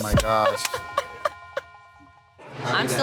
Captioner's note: laughs